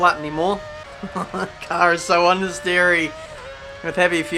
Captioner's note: laughs